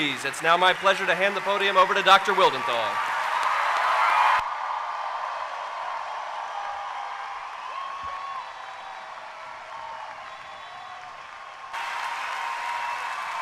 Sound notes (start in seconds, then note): 8.8 cheering and applause